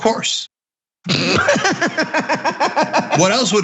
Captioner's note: laugh